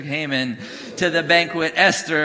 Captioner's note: congregation booing